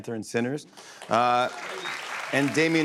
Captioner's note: cheers and applause